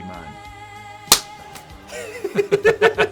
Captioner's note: hands slapping; both laughing